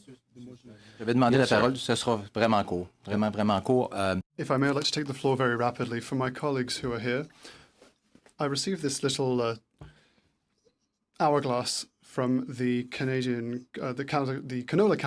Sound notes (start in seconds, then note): 6.2 speaking French